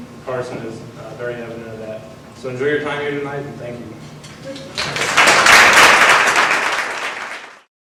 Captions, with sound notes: is very evident of that. So enjoy your time here tonight and thank you. [audience applause].